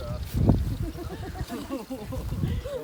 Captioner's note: laughs